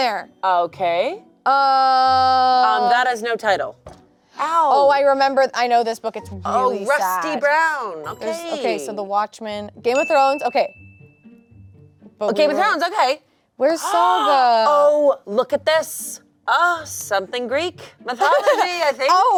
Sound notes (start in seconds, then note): 3.9 elbow thuds; 11.3 light music